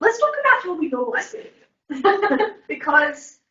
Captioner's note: all laughing